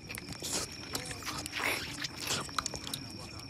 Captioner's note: lips smacking